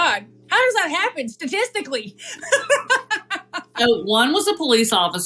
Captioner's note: laugh